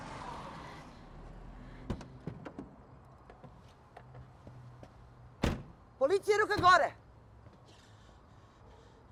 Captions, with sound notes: (doors clicking) Police! Hands up!